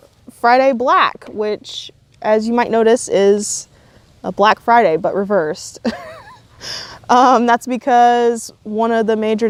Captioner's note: laughs